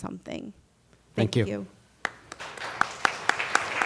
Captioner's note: applause